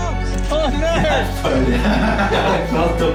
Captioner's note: chuckling